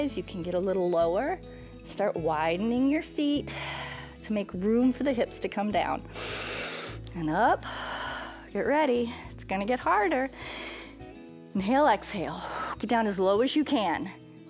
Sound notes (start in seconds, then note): 6.1 inhales; 6.1 exhales